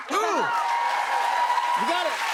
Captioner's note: cheers and applause